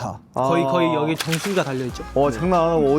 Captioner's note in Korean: 콸콸